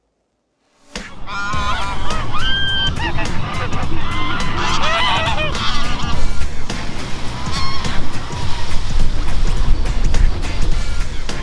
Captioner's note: ducks Quacking